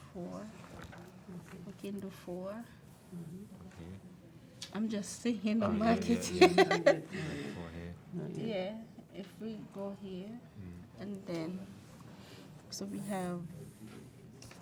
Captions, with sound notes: - four. We can do four. - Okay. - I'm just thinking, don't mark it. (laughs) - Oh, yeah, yeah, yeah. - Can do four here. - Yeah. If we go here and then, so we have,